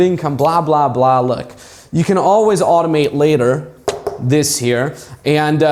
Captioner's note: knocking